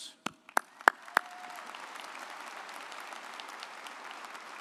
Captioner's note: audience applauds